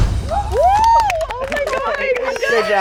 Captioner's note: upbeat music; contestants cheering and applauding